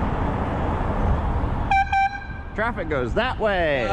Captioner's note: AIR HORN x2